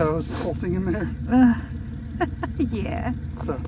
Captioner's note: laughing